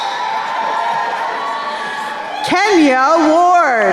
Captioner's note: crowd cheering